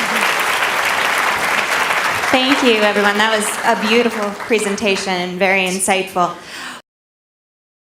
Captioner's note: applause